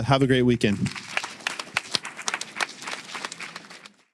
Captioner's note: applause